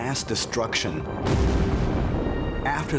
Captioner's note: explosion